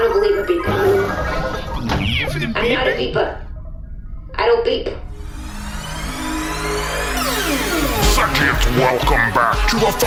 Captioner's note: transition sound